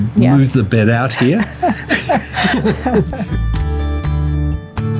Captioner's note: both laugh